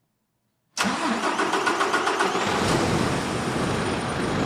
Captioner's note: engine starting; engine roaring